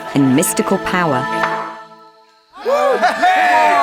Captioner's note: angelic music; air popping; crowd cheering